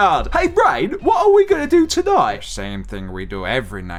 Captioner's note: Pinky voice